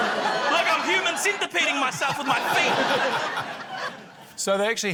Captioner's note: laughter